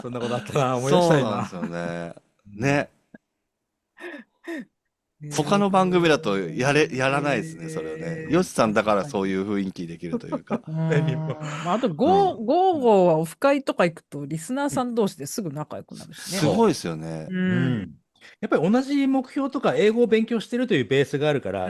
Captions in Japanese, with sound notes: そんなことあったな思い出したいな そうなんですよね [笑い][息をのむ音] 他の番組だとやれやらないですねよさんだからそういう雰囲気できるというか あと55 はオフ会とか行くとリスナーさん同士ですぐ仲良くなるしね。 すごいですよね。うん。 やっぱり同じ目標とか英語を勉強してるというベースがあるから神に対するその目線の向け方がみんな共通のものだって分かるとやっぱりあっという間に